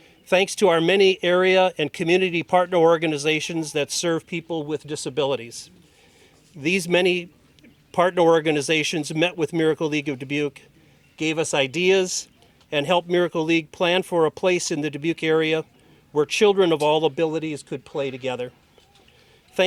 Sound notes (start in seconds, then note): none